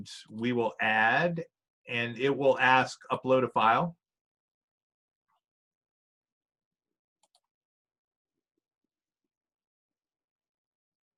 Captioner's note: silence